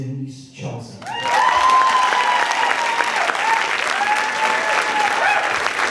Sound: audience clapping and cheering

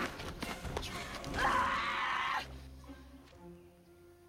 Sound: viking scream

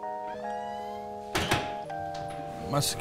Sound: door shuts

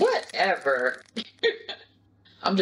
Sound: Kim laughs

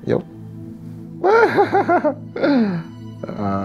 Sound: laughter

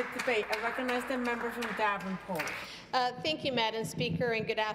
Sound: some Applause

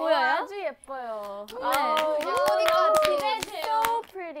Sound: cheering

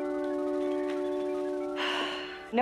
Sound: sighs

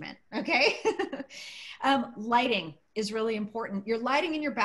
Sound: laughter

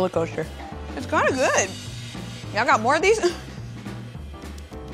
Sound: laughs

